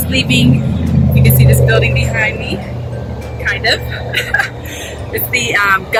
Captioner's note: laughs